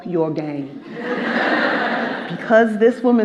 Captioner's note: audience laughing